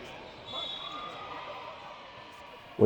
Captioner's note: whistle blares